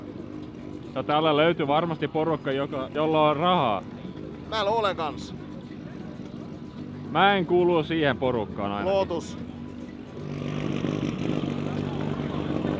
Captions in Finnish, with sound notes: No täällä löytyy varmasti porukka, joka, jolla on rahaa. Täällä ole kanssa. -Mä en kuulu siihen porukkaan ainakaan. -Lotus. [moottorin pärinää]